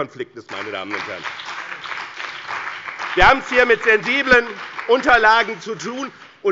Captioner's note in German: Beifall bei dem BÜNDNIS 90/DIE GRÜNEN und der CDU